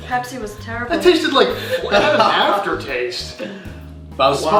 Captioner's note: laughs